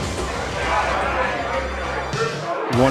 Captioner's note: crowded room of people talking